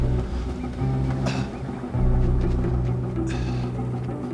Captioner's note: Tommy grunting